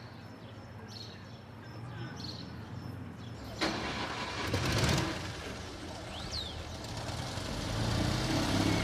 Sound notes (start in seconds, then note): 3.5 engine starts